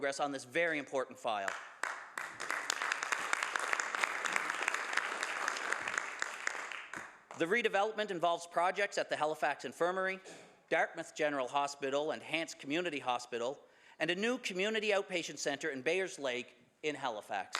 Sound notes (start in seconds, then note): 6.9 some Applause